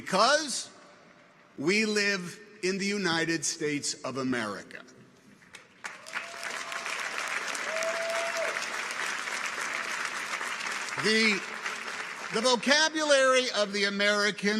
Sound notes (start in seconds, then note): 5.5 audience applauds